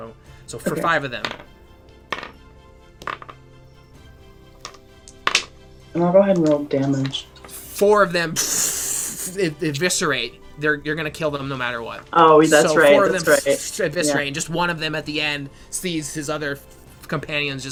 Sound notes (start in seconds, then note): 3.0 dice rolling